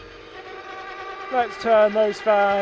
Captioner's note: engine revving